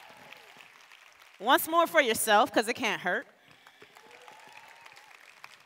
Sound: cheers and applause

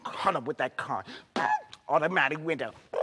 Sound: screeches

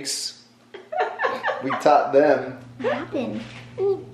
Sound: mom laughing

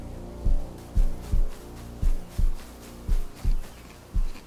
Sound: grass crunching under feet

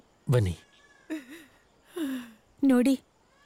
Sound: baby crying

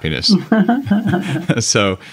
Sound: laugh

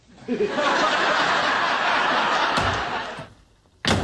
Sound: laughs

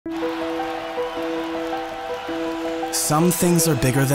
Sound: cheering hockey fans

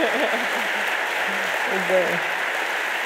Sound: audience applauding

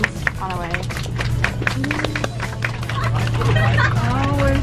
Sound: passengers clapping

